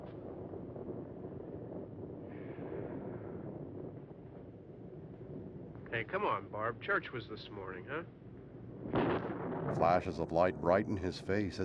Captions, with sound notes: [sighs] Hey, come on, Barb. Church was this morning, huh? [thunder crashes]